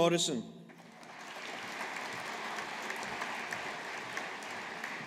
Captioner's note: audience applauding